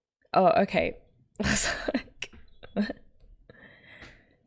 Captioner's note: laughs